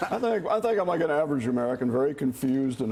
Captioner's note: laughter